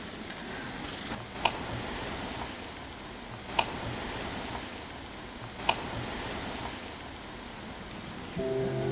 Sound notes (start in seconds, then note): 1.4 wood taps; 8.4 soft haunting music